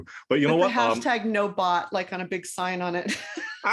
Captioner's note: laugh